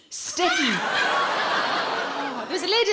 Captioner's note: audience laughing